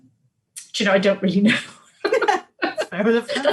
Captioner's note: laughs